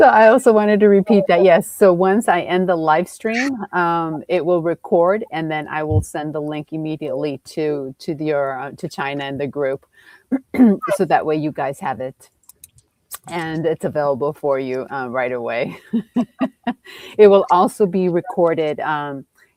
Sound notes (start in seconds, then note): 15.8 laughs